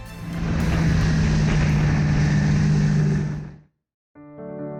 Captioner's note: orchestral music; engine revving; piano music